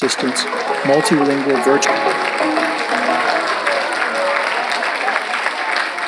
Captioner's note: audience applauds